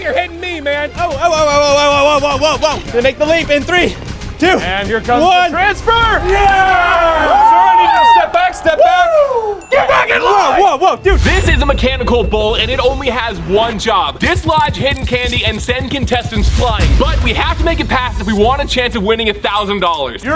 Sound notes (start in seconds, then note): 5.8 cheering